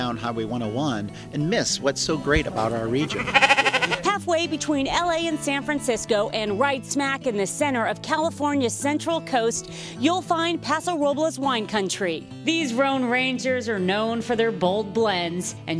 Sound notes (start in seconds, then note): 2.8 sheep bleets